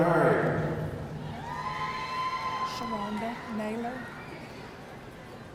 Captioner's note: audience cheering